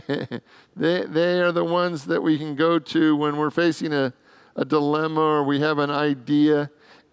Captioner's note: laughs